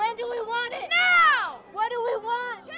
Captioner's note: crowd